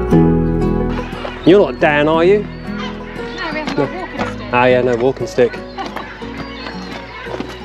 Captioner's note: laughter